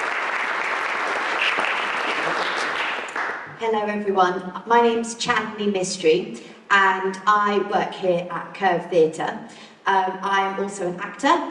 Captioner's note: applause